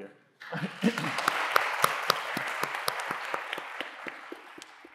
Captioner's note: audience clapping